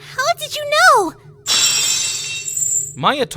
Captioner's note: lock shatters!